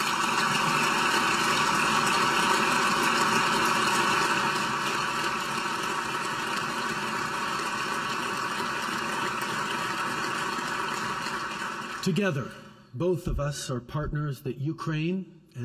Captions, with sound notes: (Applause.) Together, both of us are partners that Ukraine